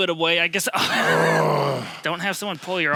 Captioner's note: grunting